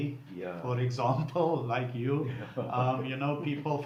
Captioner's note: laughing